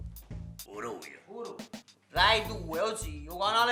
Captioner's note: none